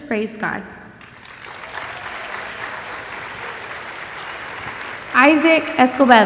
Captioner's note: audience applauding